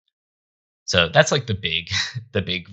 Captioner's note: chuckling